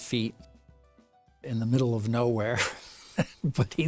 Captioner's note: laughs